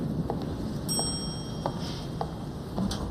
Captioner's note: elevator dings